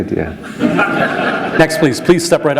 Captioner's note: laughter